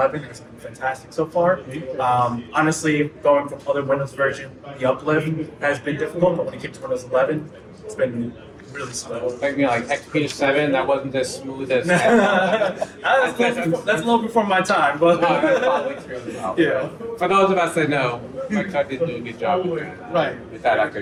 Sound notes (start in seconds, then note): 11.8 people laugh; 15.2 laughs